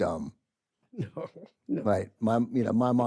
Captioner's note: chuckles